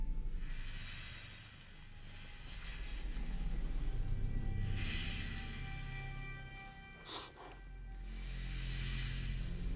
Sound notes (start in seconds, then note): 3.5 snake hissing; 7.4 dramatic music; 8.1 snake hissing